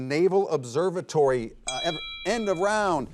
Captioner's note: bell ringing